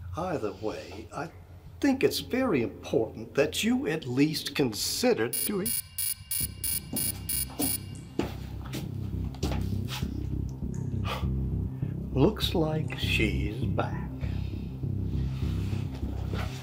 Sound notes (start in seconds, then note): 5.3 beeping sound; 7.5 suspenseful music